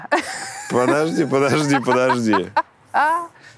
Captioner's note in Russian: Вера смеется